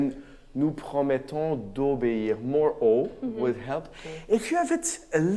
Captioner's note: speaks in a foreign language